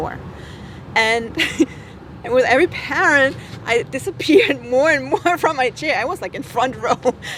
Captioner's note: laughter; laughter